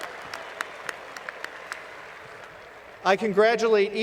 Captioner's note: applause